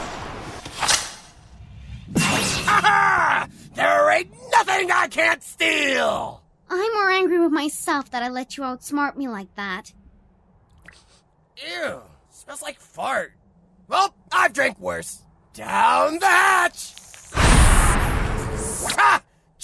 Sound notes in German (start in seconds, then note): 10.0 schnüffel